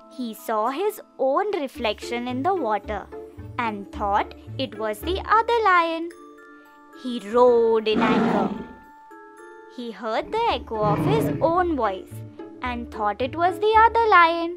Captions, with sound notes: He saw his own reflection in the water and thought it was the other lion. He roared in anger. [roaring] he heard the echo of his own voice and thought it was the other lion.